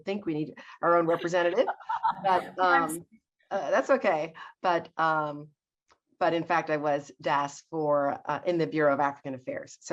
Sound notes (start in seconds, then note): 1.1 laughs